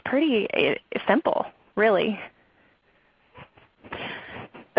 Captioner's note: silence